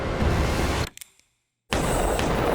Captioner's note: gun cocking; gun shots